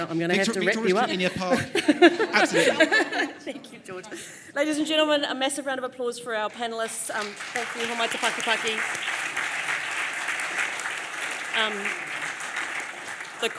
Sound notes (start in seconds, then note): 0.4 laughs; 9.2 applause